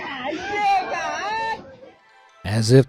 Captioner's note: onlooker speaking in foreign language